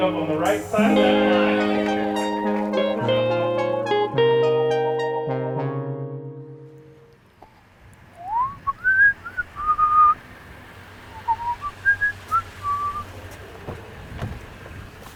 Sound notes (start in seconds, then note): 0.7 crowd cheers; 8.1 whistles